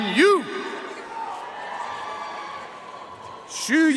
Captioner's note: audience cheering and applauding